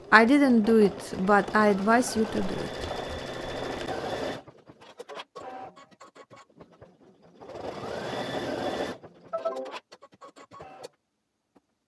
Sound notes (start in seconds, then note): 3.5 sewing machine running